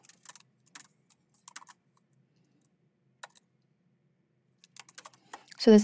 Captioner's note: keyboard clacking continues